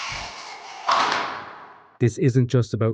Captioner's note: door shutting